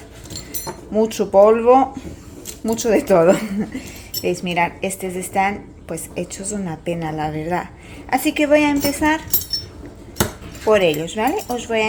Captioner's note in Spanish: risas